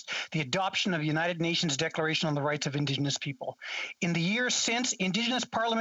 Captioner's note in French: voix de l'interprète